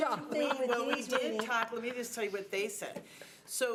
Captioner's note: members chattering